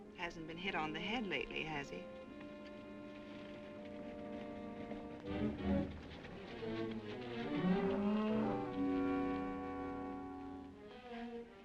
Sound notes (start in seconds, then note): 2.8 gentle music; 5.7 horse hooves clopping; 8.8 gentle music